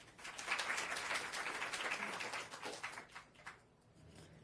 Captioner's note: audience applauding